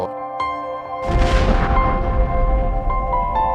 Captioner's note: explosion; soft piano music